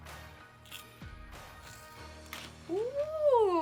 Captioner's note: peas crunching